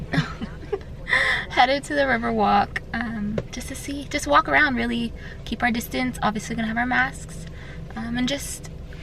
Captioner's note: laughs